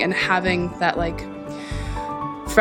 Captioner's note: deep breath